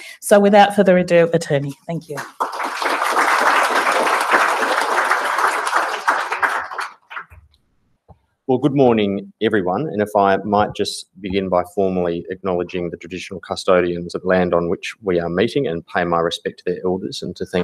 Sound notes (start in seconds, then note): 2.0 applause